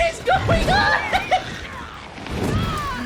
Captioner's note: wild laughter